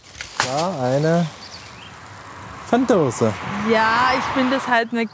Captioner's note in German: Vogelzwitschern, Straßenlärm